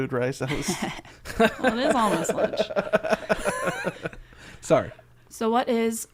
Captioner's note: laughing